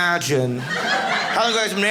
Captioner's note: audience laughing